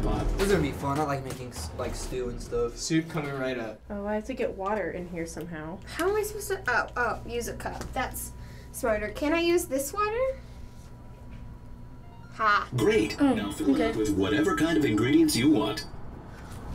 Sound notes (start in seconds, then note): 12.0 gentle beeping